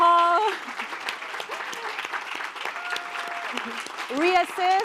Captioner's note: applause